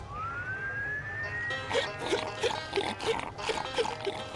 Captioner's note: <i>slurping</i>